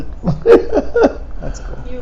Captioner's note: laughing